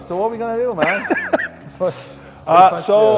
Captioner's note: Ethan laughing